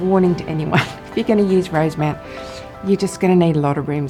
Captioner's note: chuckles